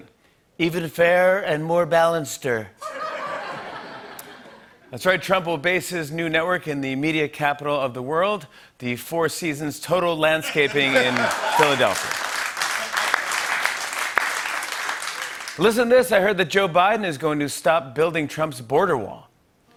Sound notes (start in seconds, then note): 0.2 As Trump; 2.8 laughter; 12.2 laughter and applause